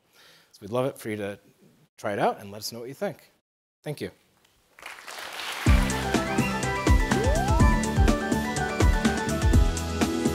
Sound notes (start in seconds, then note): 4.7 applause